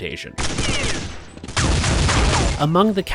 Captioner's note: gunshots blasting